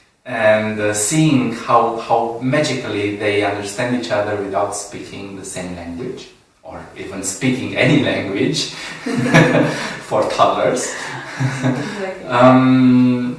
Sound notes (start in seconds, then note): 8.7 laughs